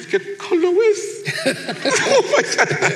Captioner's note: laughs